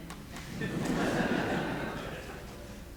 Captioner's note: audience laughs